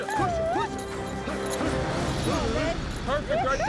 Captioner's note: hoofbeats